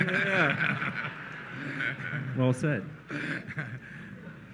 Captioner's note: laughter